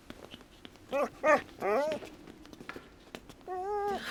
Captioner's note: dog whining